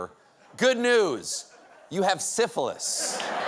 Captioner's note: applause; laughter